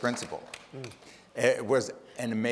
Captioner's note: audience applauding